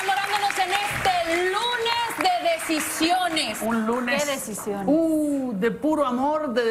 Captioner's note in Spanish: aplausos